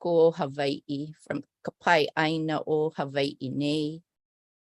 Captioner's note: non-english speech